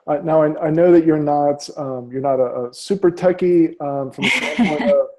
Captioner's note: laughs